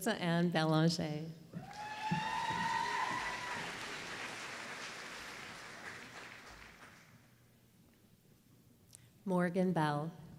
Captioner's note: applause